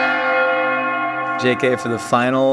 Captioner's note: bell chiming